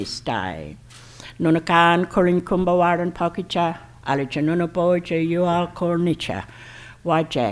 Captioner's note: foreign Language Spoken